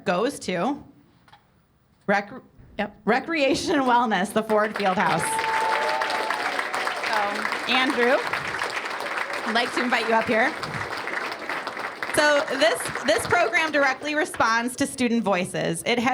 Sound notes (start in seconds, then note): 6.2 cheers and applause